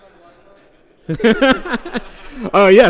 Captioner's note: laughter